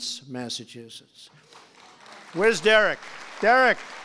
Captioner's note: applause